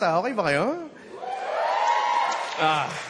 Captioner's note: audience cheers